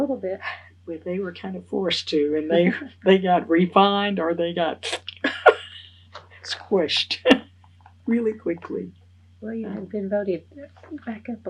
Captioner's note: laughs